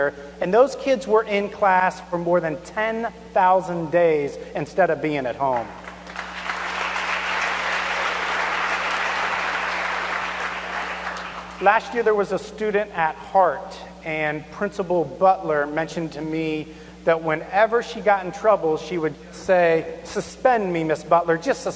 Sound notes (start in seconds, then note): 8.8 applause